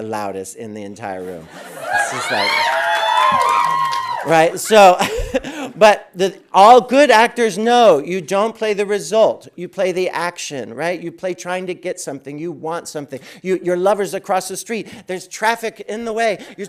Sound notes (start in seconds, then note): 1.6 audience cheering